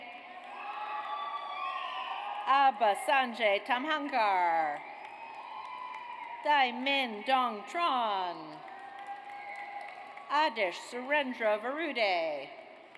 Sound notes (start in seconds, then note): 0.4 audience cheers; 5.0 audience cheers; 8.6 audience cheers